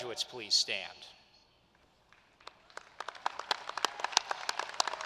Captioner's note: applause